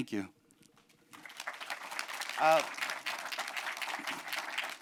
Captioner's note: applause